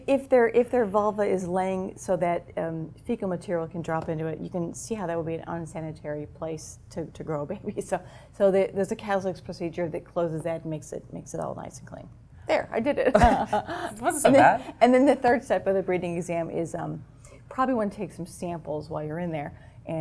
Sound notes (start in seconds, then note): 13.2 laugh